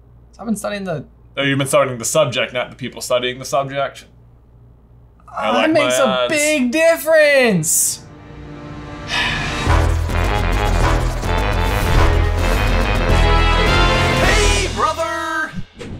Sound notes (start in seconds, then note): 9.0 sighs; 9.9 music building